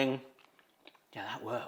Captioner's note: tortilla crunching